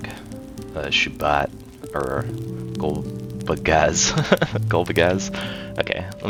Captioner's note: laughs